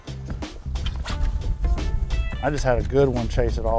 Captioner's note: rods swishing